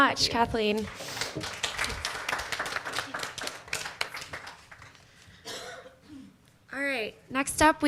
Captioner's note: applause